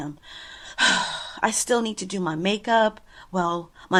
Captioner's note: sighs